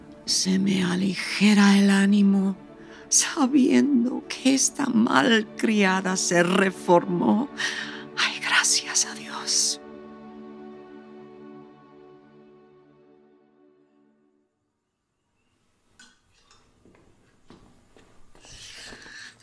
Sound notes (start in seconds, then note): 15.7 footsteps approaching